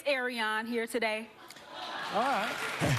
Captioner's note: laughter